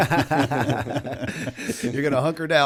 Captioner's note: laughter